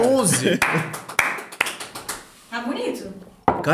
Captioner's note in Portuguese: palmas